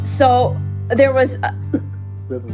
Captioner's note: laughing